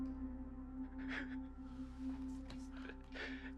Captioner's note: Gio shudders